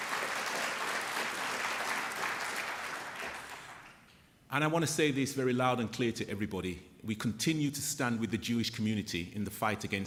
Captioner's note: applause